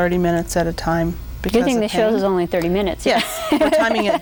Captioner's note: laughs